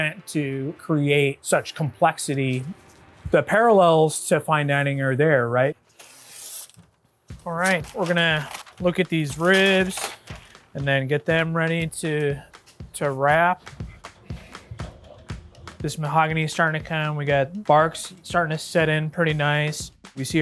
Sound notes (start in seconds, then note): 5.9 knife screeches; 13.8 energetic upbeat music